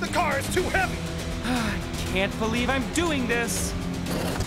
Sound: sigh

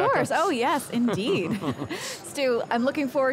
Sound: both laugh

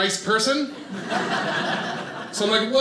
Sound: audience laughing

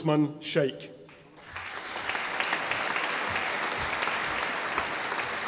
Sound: audience applauding

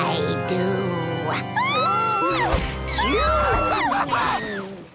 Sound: screaming

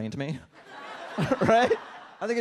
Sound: audience laughs

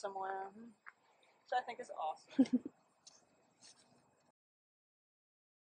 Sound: laughs

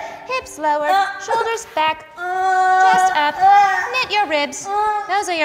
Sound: groans

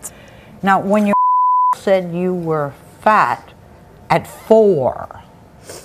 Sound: beep

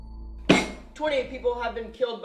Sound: bam

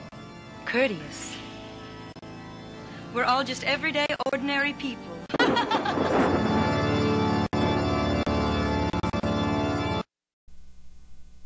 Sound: crazy laughter

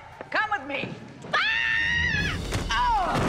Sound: screams

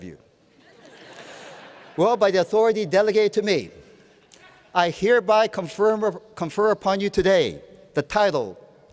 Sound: laughter

